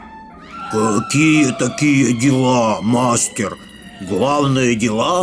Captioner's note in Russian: страшные звуки